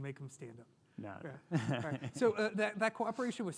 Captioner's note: laughs